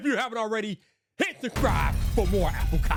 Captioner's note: glass crashing